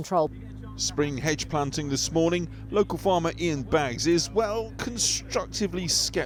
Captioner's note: voice-over